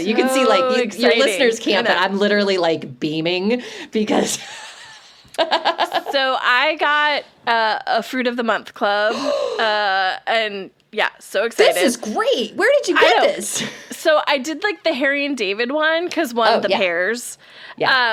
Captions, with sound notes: You can see like exciting your listeners can't but I'm literally like beaming So exciting! because [laughs]. So I got, uh, a Fruit of the Month club. And yeah, so excited. [Gasps]. This is great. Where did you get this? I, so I did like the Harry and David one 'cause one the pears. Yeah. Um,